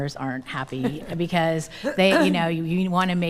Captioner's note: laughing; coughs